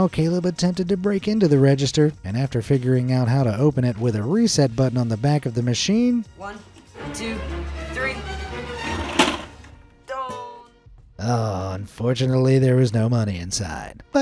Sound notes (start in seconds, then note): 6.2 tense suspenseful music; 8.8 cash register tray clanks